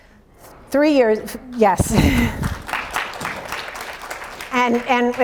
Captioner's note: audience applauds